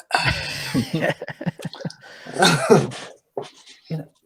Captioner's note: laughing